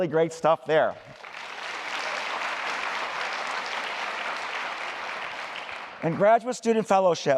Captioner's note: applause